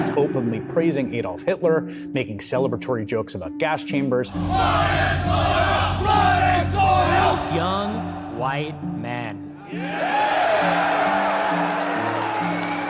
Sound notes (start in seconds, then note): 4.3 protestors chanting; 9.7 audience cheering